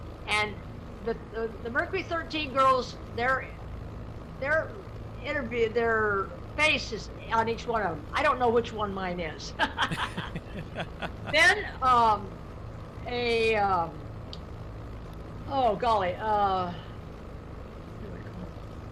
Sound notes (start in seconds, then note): 9.6 laughs; 9.7 man laughs